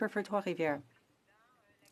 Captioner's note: speaking French